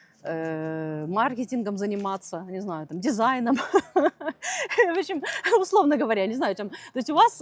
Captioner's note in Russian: смех